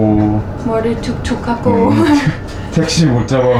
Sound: laughing

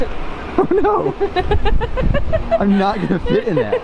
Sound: laughs

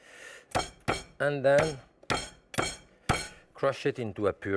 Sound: chopping

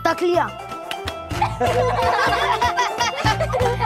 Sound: laughing

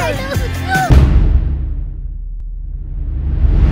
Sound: thud

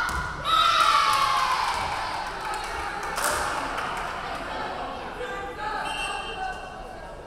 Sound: crowd cheering; referee whistling

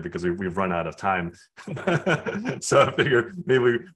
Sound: laughs

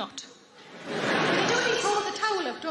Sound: audience laughing

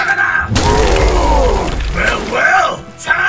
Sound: goblin Dying Sounds; big Goblin Attack Sounds

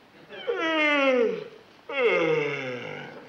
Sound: Brad yawns

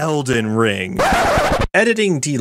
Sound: record scratch

